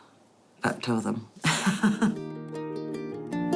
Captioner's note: laughs